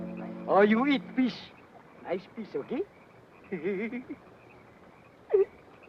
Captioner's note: laughs